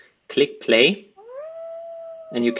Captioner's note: wolf howling